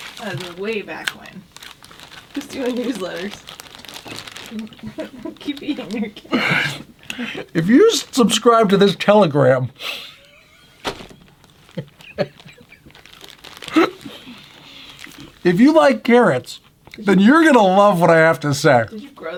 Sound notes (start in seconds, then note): 4.6 laughing; 10.0 laughing